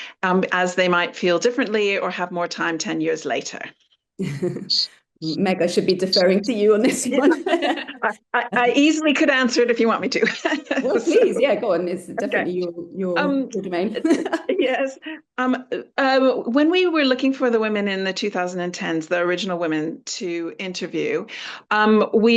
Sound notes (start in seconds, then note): 6.9 laughter; 10.2 laughter